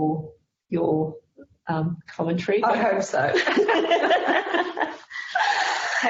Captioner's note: laughing